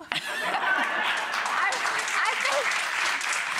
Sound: audience laughs and claps

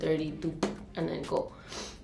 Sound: pops

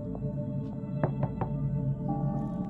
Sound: knocking

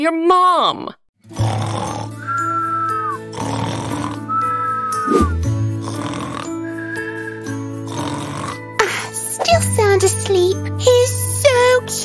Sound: snoring

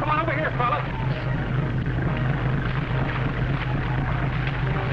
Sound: splashing

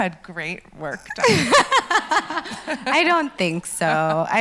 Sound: laughs

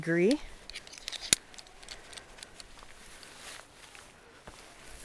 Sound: metal clinking

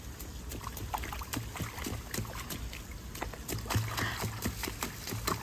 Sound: mischievous, splashing in the water

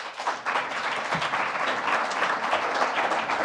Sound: applause

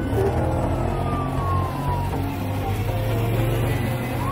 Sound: sirens; tense music

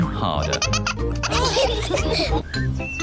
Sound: all laugh

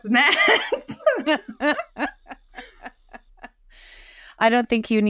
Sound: both women laugh

